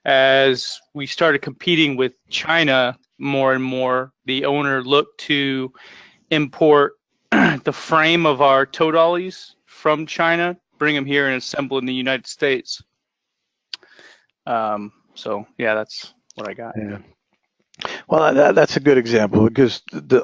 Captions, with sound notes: As we started competing with China more and more, the owner looked to import [COUGH] the frame of our tow dollies from China, bring them here and assemble in the United States. So yeah, that's what I got. >> Yeah, well that's a good example cuz